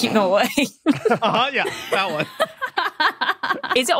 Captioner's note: laughs